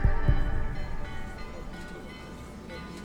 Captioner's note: church bells tolling; crowd whispering